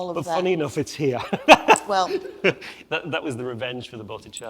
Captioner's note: laughs